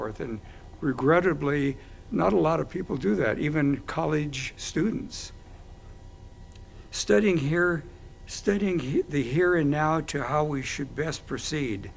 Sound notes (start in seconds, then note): none